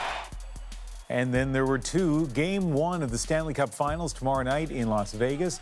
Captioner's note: cheering